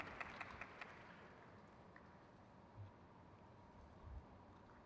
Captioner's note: crowd cheers